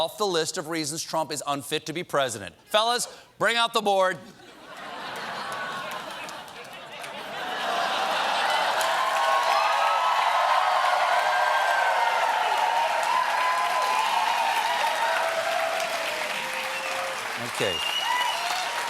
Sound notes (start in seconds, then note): 4.3 laughter; 5.1 cheers and applause